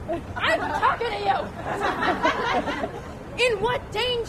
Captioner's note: laughter